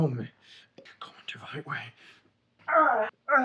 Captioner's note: Solent groans; groans